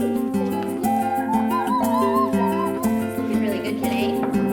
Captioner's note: upbeat guitar music; hums loudly